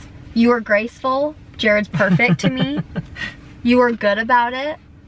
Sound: laughing

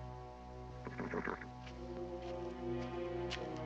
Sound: nickering

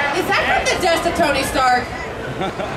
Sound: audience chattering drowns out female announcer

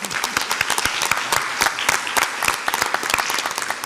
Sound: audience applauds

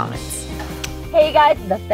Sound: kisses

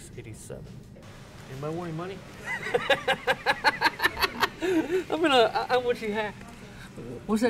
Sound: laughs

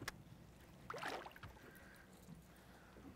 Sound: reel cranking; fish splashing

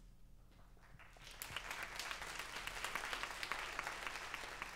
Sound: audience applauds

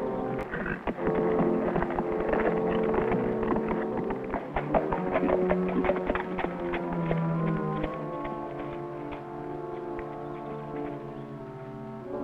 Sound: horse trotting

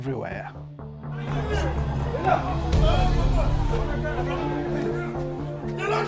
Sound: yelling in foreign language

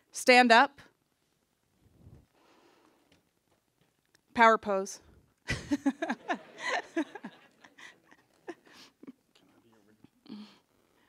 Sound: laughter

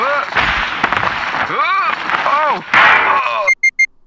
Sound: fall damage

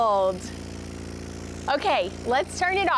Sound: speakers rumbling

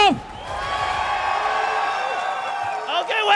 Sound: people clamoring

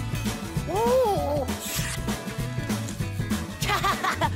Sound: screen whizzes; Cozmo laughing

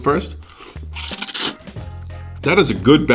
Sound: slurps

